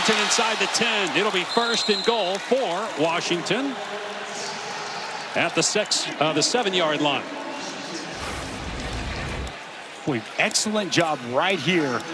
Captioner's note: engines revving